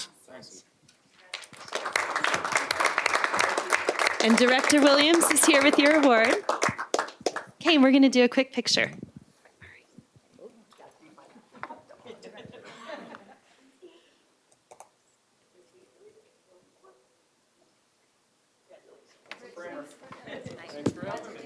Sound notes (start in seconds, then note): 6.0 applause